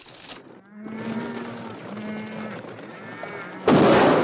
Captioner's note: cattle mooing; gunshot